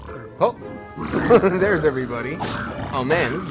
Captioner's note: laughs